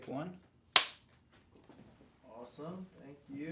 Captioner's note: clapperboard clapping